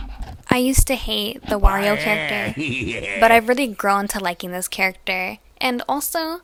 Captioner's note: Wario laugh